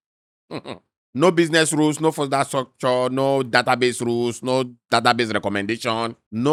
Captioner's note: laughs